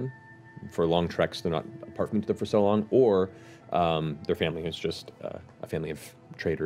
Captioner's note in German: none